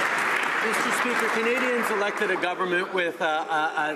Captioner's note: some Applause